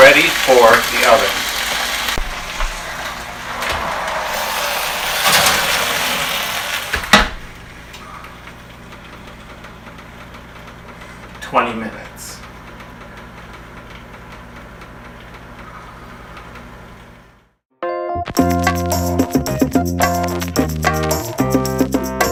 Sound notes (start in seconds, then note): 4.8 oven opening and closing sound; 12.2 oven timer setting sound; 16.5 up beat music plays